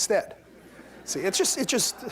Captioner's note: laughter